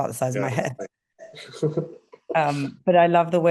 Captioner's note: laughing